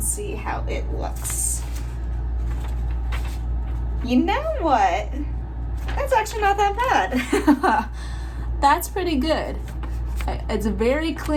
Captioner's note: laugh